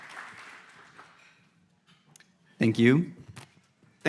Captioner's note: audience applauds